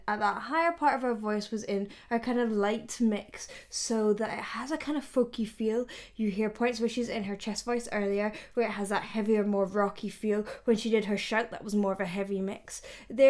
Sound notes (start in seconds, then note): none